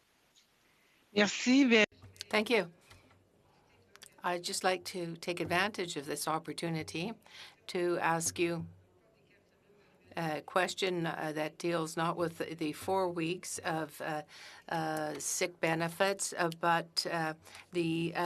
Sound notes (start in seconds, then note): 5.8 speaking French